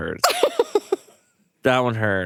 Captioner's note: chuckles